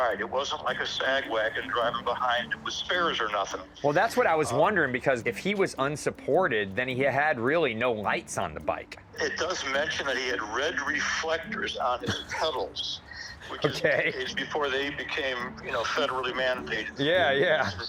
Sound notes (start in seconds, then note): 12.7 laughs